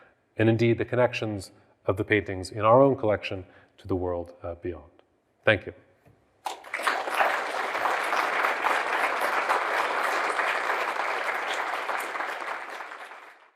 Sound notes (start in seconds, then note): 6.4 audience applauding